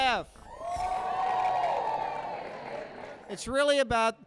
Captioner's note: applause and cheers